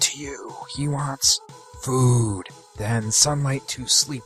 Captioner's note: whispering